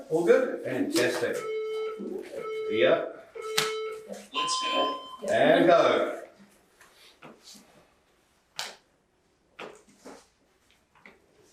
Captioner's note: beeping